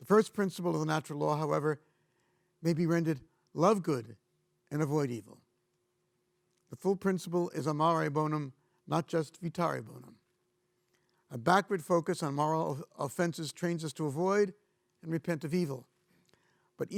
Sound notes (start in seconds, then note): 7.7 speaking in foreign language